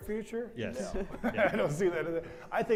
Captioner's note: panelists laugh